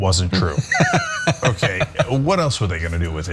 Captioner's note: laugh